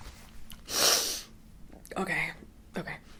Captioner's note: sniffs